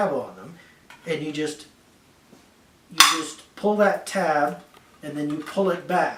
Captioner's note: POP sound